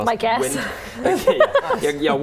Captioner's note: laughing